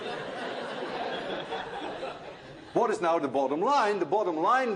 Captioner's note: laughter